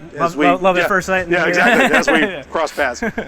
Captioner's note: laughs